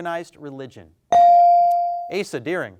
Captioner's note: bell dings